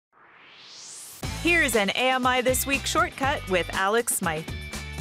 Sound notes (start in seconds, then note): 0.1 swoosh